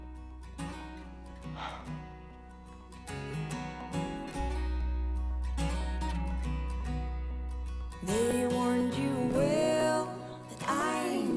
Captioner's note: soft guitar ballad; sighs